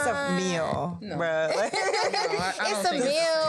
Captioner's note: laughs